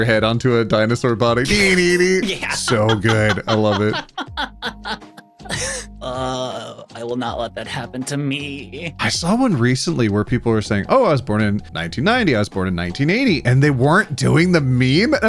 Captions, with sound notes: head onto a dinosaur body. (humming) So good, I love it. (laughing) I will not let that happen to me. I saw one recently where people were saying, oh, I was born in 1990, I was born in 1980 and they weren't doing the meme.